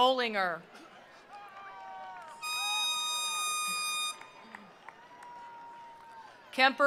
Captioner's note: attendees cheering; attendees applauding